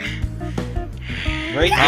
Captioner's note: another Sigh